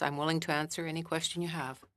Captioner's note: speaking French